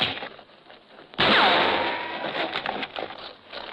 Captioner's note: gunshot; thud